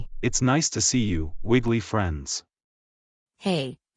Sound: none

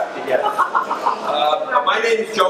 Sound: crowd laughs

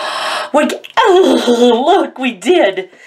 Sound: gasps

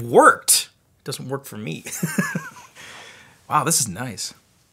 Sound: laughs

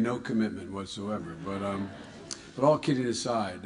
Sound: laughter

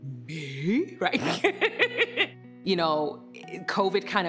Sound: laughing

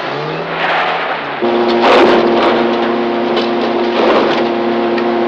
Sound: engine cranking; trimmer roaring

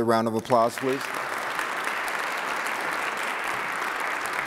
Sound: audience applauds

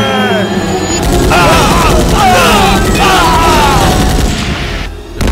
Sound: rapid gunfire

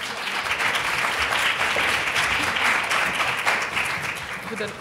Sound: audience applause

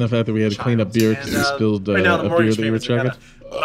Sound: burp

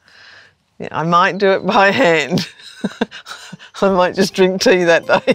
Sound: chuckles

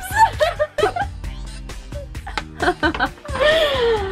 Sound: laughter

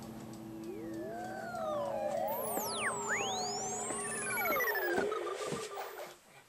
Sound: buzzing

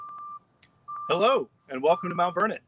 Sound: truck beeping

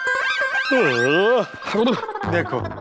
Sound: yawns

